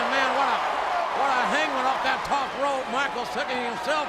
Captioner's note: audience cheering